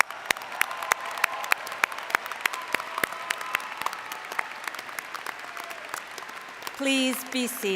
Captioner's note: applause